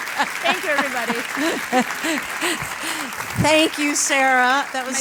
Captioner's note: laugh; applause